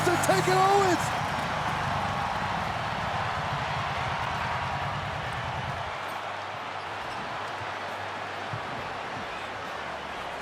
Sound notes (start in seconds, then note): 3.1 crowd cheering